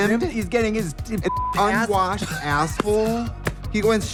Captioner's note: beep